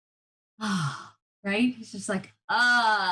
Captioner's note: exhaling loudly